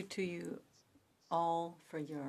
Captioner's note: speaking French